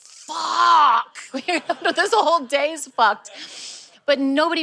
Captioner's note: laughing